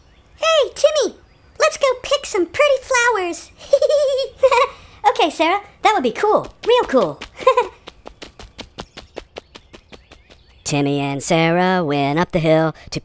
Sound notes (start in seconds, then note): 3.5 giggles; 8.0 footsteps